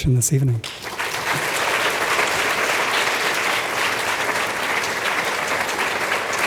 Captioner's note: applause